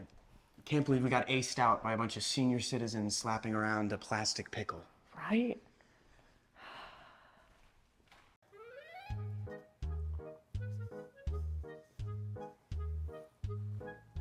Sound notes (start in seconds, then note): 6.6 sighs; 8.5 upbeat music